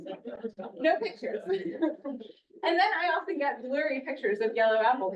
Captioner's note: laughs